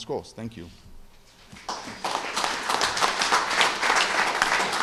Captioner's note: applause